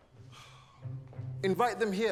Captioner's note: Alex sighs